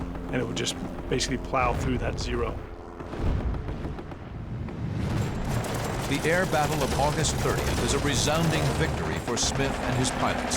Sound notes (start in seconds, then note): 2.5 gunshots